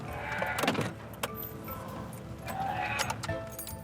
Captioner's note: shift clattering; keys jangling